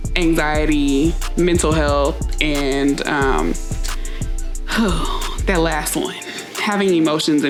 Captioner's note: sighs